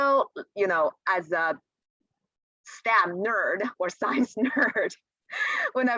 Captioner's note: laughter